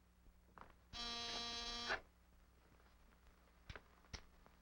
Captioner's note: doorbell buzzes